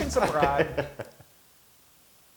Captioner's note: laugh